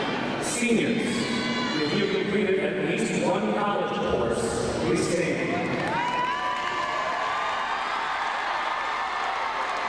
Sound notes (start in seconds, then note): 5.6 crowd cheering